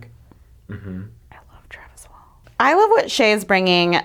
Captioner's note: whispers